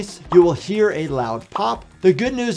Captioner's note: bubble popping tone